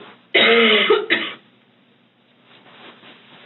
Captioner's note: coughs